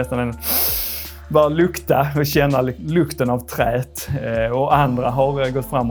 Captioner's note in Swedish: inandning